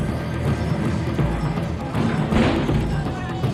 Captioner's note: group clamoring; bin crashes; dramatic music